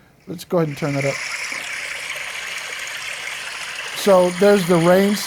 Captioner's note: water flowing